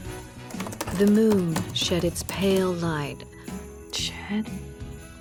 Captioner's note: typing